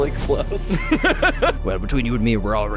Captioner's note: laughing